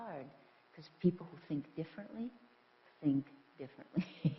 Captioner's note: laughs